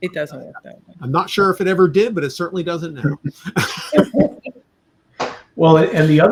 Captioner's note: laughter